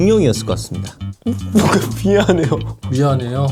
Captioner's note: sobbing